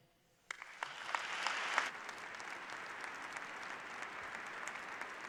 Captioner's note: applause